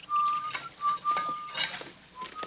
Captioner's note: whistling